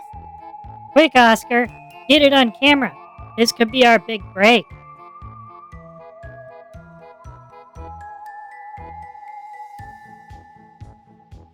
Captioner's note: excitedly